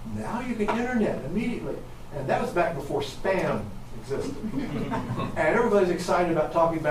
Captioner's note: audience chuckles